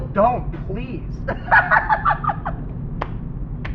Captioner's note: bill laughs even harder